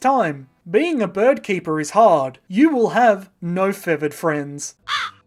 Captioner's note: squawk